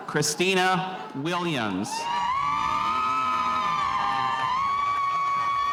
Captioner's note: spectators cheering